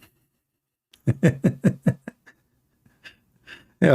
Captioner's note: Ketawa